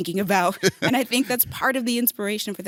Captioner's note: laughing